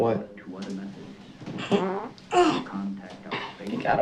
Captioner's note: fart